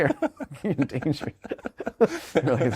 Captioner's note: laughing